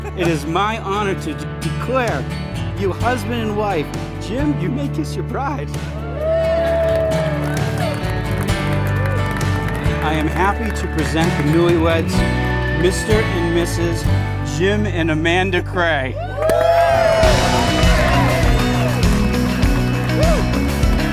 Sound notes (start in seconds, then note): 5.8 guests cheer and clap; 16.1 guests cheer